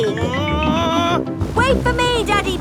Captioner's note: screaming